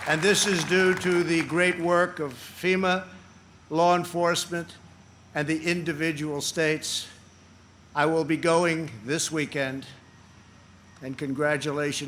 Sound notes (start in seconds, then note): 0.0 applause